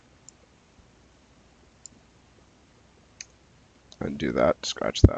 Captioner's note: mouse clicking